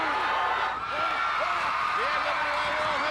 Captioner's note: crowd cheering